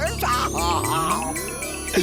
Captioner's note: laughing